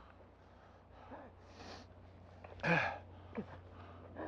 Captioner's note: gasping